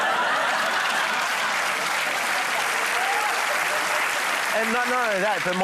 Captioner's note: laughter